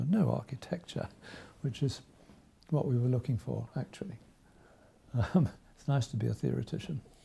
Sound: chuckles

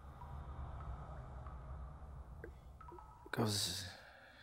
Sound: water dripping

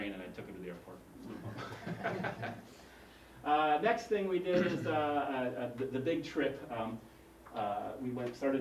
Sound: laugh

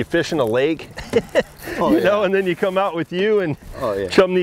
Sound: laughs

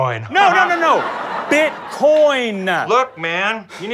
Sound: enunciating sharply

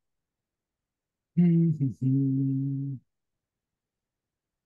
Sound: hums

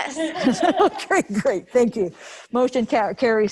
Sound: members laughing

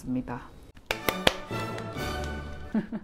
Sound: clap Clap

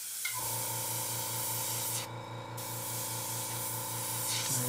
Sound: motor whirring

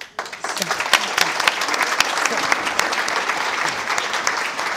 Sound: audience applauding

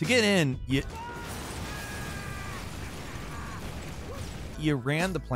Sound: Trevor screams

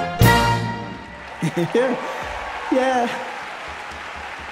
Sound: laughs; applause

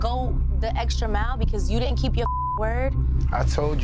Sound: beep

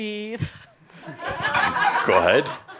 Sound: some chuckles

